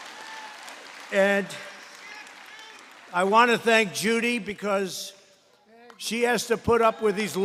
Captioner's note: applause